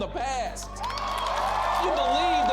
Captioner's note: crowd cheering